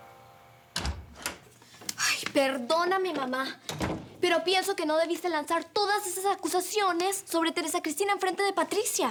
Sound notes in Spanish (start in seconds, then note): 0.7 Sonido al abrir la puerta